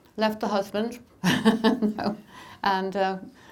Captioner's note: laughing